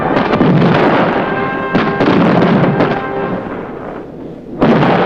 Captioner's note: mortar firing; bombs exploding